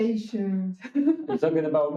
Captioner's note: laughing